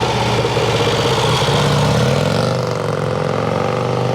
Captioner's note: motorcycle engine sound